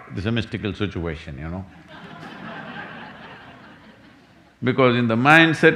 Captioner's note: laughter